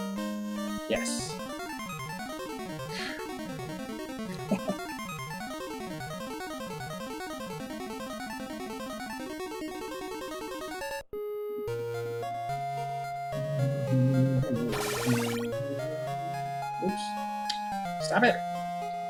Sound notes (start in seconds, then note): 4.3 chuckles; 13.1 humming along